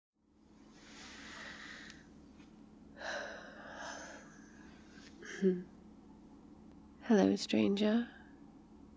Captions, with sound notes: *wakey shuffling* hello stranger